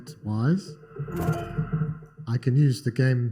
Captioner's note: electronic tones